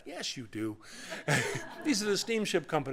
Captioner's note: laughter